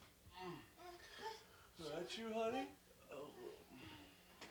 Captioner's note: groans